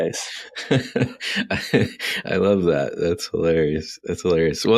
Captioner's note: laughing